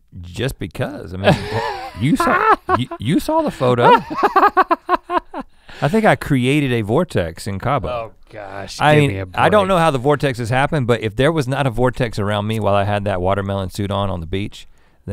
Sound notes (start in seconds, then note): 1.2 laughs